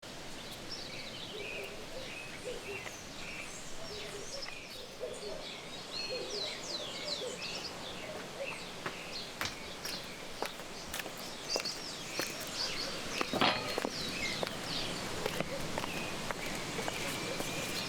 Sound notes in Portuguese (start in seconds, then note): 1.0 Chilreio de pássaros; 4.9 Latidos ao fundo; 15.6 Farfalhar de folhas